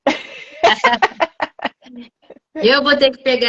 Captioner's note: laughs